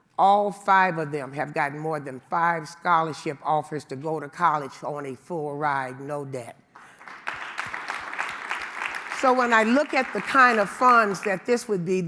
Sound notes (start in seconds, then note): 6.7 audience clapping